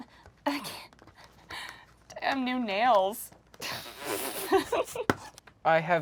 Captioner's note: laughs